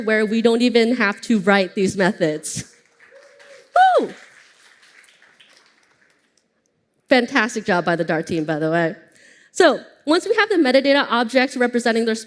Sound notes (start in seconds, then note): 2.5 applause